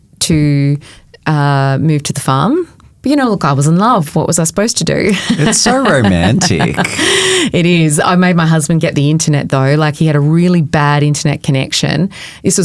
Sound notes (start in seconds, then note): 5.0 chuckling